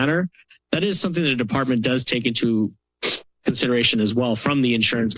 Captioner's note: sniffs